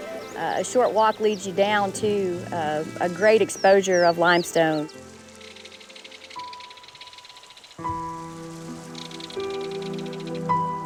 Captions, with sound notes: A short walk leads you down to a great exposure of limestone. [water trickling sounds]